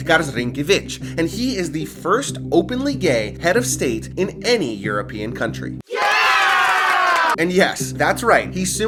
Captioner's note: crowd